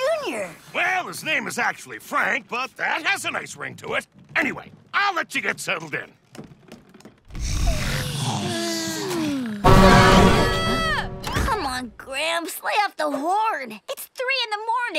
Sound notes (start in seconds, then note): 7.3 snoring; 9.6 horn blowing